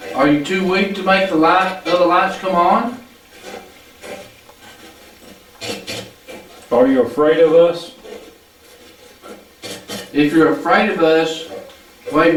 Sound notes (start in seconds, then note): 3.3 static playback transmitting